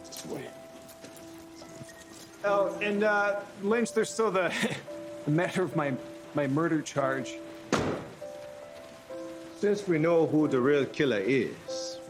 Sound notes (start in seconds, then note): 4.4 chuckles